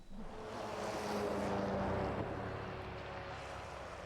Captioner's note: engine droning